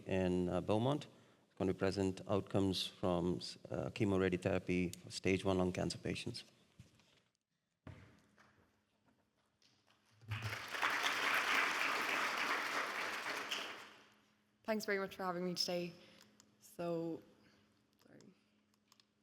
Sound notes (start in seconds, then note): 10.2 audience applauding